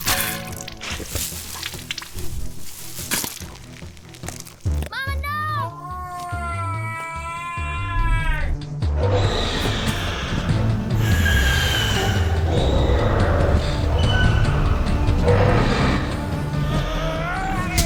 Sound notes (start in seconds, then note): 0.8 blood squirting; 3.1 loud chomping, chewing; 9.0 loud screeches and roars